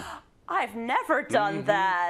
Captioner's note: laugh